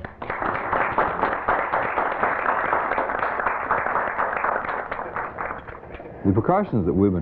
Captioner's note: applause